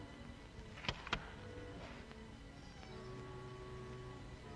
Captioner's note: door opens; soft ominous music